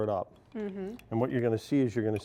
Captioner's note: stirring noise